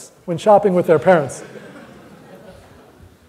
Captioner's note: audience laughter